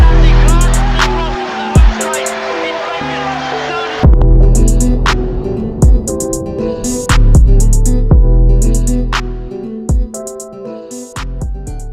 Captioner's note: ጭብጨባ